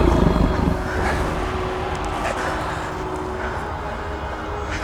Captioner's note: grunts